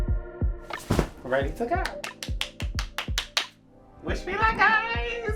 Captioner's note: clapping